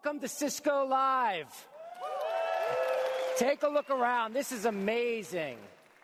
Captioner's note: cheers and applause